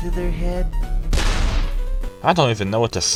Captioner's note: gunshot sound